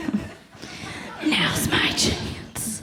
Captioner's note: laughs